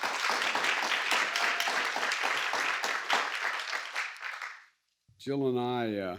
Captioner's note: applause